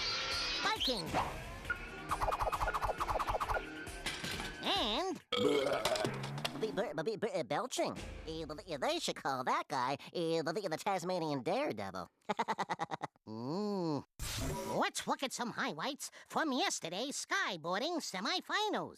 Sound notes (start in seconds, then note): 5.3 belching; 12.2 laughing